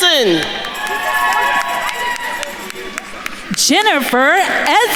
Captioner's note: attendees cheering and applauding